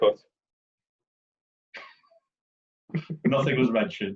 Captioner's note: laughing